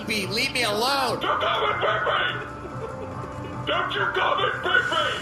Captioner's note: shouting; transition noise